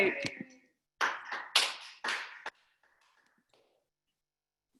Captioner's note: applauding